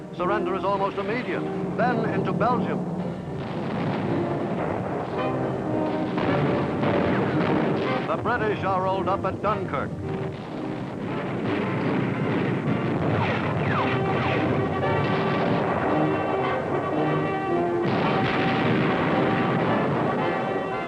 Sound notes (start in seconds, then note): 3.6 explosions boom; 6.8 artillery blasting; 11.5 artillery blasting; 14.9 explosions boom; 18.1 dramatic music